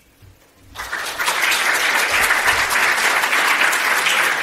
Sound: audience clapping

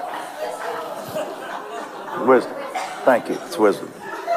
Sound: congregation laughs

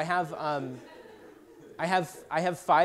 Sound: laughter

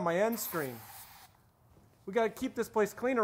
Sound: aerosol can sprays

